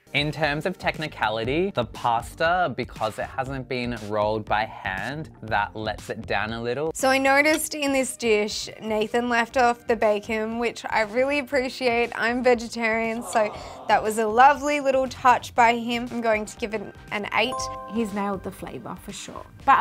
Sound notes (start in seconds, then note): 13.1 crowd